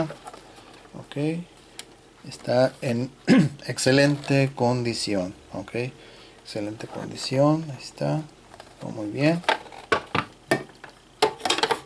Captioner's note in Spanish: carraspeo